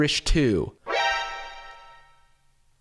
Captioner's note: shock sound effect